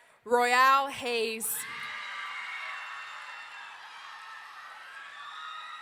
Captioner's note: audience cheering